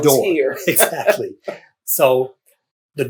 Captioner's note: laughter